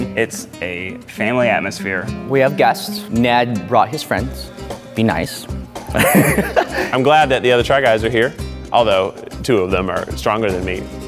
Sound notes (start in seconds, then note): 5.9 laughing